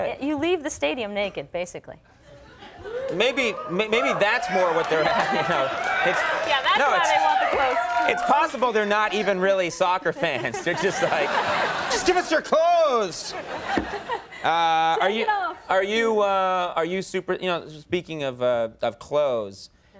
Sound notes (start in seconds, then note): 6.0 audience cheering